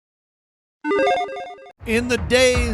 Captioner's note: logo beeps